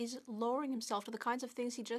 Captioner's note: speaking French